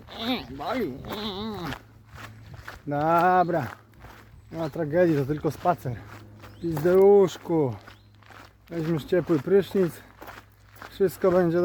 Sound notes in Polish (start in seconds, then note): 0.0 kwik kwik